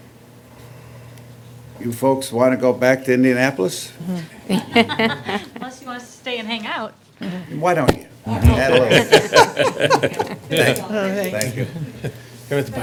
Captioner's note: laughter